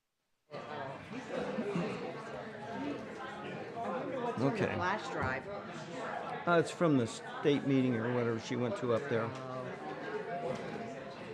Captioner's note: crowd ambiance